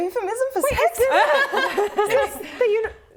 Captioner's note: laughing